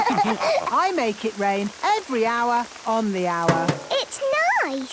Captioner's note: all laughing; taps